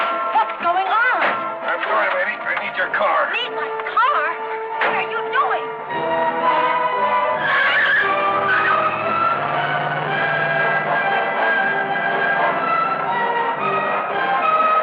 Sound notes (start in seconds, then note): 6.1 dramatic music; 6.1 tires screeching